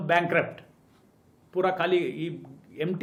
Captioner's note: Hindi